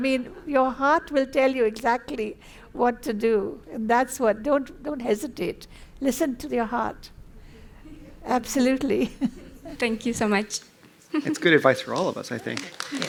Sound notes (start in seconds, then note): 9.0 laughter; 12.1 applause